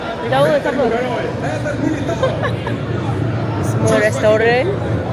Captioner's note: laugh